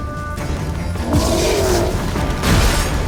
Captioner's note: roar; Quen shield explodes